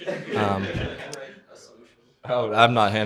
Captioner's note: laughter